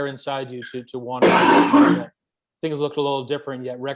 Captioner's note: loud coughing